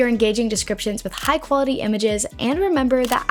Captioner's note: camera snapping